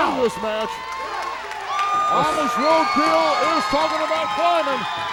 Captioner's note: applause